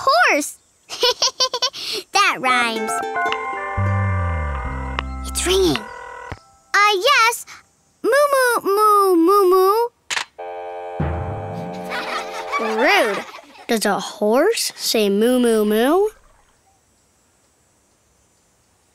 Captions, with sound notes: Neigh! I'll try again. [phone ringing] Hello, hang on a moment please. Help me call the horse! Say neigh!